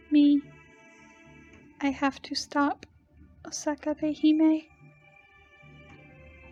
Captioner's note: As Mecha Eli-chan, quietly